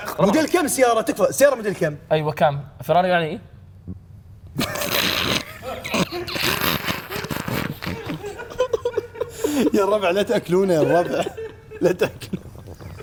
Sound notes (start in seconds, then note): 4.6 burps; 4.6 laughs